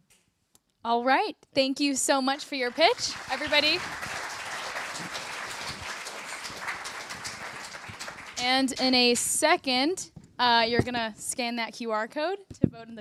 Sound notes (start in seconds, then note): 4.5 applause